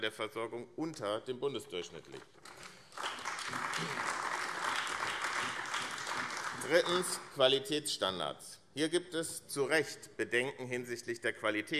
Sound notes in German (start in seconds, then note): 2.4 Beifall AfD